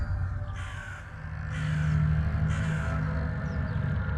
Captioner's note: birds caw